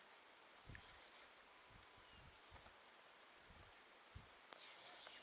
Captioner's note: youth whispering